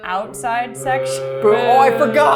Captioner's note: crew boos